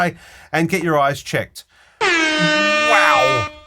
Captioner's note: fog horn blasting